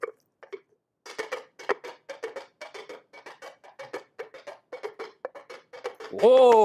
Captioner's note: horse hoof sound